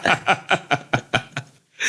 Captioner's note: laughing